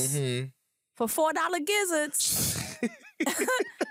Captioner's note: laughter